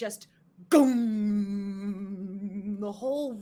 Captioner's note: imitating gong